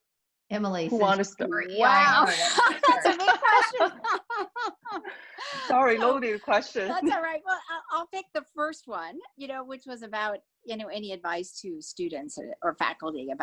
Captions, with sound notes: - Emily. - Who wanna sta- - Wow. (laughing) That's a good question. - Sorry, loaded question. - That's all right. Well, I'll take the first one, which was about any advice to students or faculty